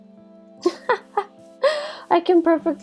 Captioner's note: laughter